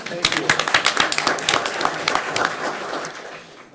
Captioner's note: clapping